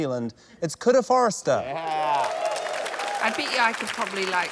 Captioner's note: cheering, applause